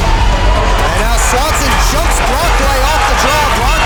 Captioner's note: broadcast commentary